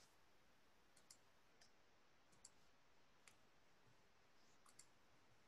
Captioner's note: mouse clicking